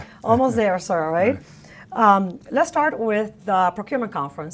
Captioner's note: laughter